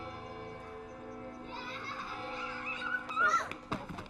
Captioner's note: children laughing and shouting